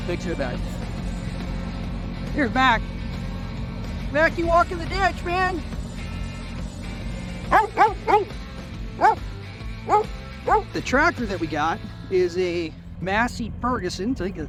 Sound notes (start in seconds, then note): 6.0 upbeat rock music; 7.5 dog barking